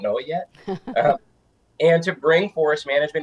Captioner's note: chuckling